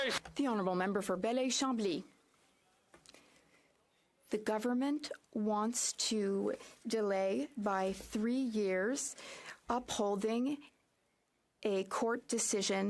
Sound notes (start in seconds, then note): 3.3 speaking French